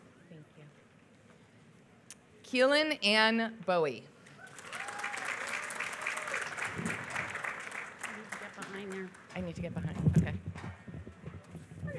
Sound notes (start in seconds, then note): 4.4 applause